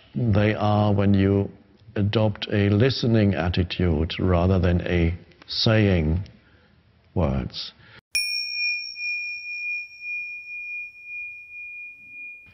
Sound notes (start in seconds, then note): 8.1 bell chimes